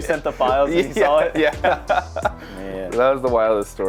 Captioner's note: laughs